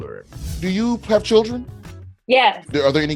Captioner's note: air whooshing